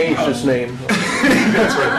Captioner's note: laughter